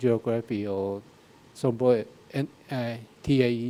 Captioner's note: speaking in a foreign language